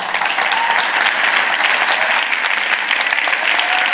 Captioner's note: applause